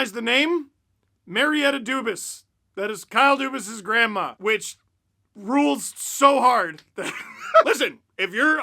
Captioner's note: laugh